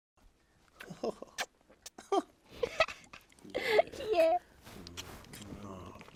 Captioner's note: intimate laughter